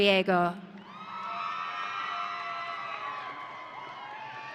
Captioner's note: audience cheering